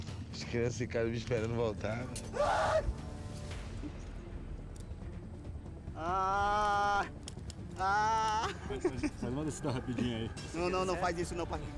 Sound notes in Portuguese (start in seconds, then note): 2.3 grita; 5.8 grunhe